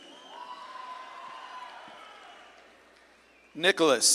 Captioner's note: audience claps and cheers